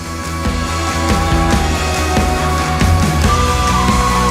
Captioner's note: uplifting music; happy screaming; cheering